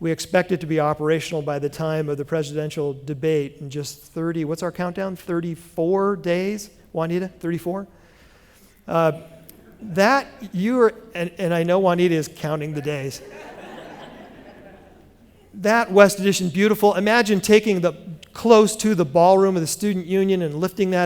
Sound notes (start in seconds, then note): 12.7 laughter